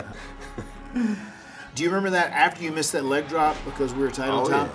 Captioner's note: laugh